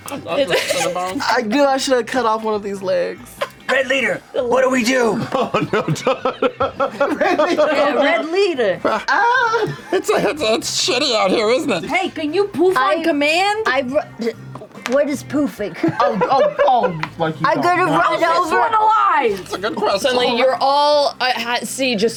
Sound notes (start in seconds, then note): 4.4 laughs